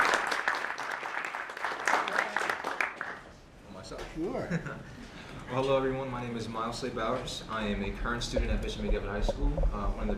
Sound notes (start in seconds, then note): 0.0 applause